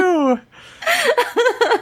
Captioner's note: laughs